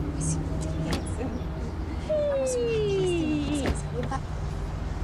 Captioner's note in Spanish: Exclamaciones